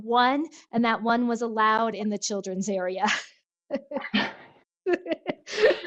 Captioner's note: laughs